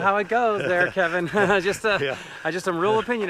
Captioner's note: laughs; Joel fakes laughter